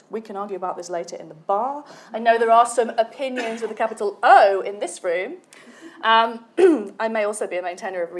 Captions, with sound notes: We can argue about this later in the bar. I know there are some opinions with a capital O in this room. (clears throat) I may also be main tenor of